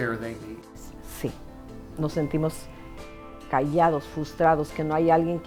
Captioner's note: speaking in Spanish